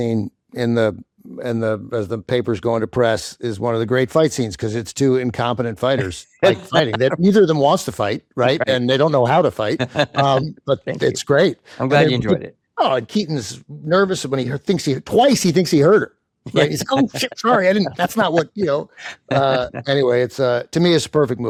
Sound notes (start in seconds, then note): 9.6 chuckling